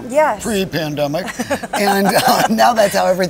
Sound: laughs

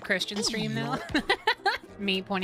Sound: laughter

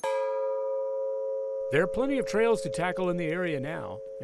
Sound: gong

